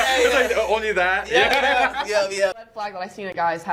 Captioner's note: laughs